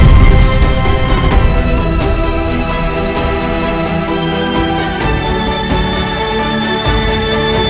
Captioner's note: fire whooshes; fire crackles